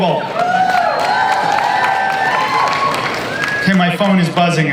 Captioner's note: audience cheering